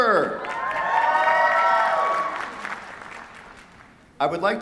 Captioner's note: cheers, applause